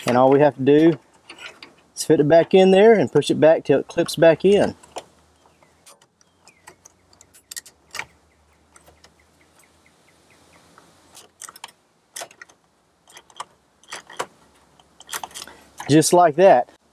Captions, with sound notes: and all we have to do is fit back in there and push it back until it clips back in. (parts rattle) Just like that.